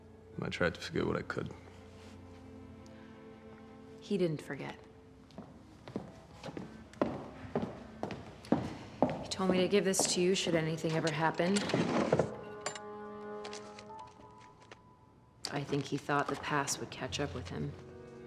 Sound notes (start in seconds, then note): 5.8 footsteps; 13.2 A sound of a desk drawer being opened